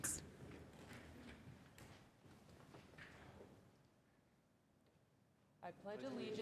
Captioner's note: sound of everyone rising